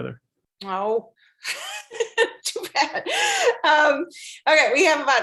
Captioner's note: laugh